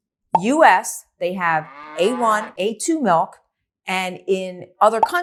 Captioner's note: cow mooing